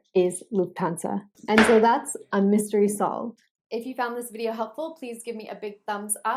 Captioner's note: gavel sound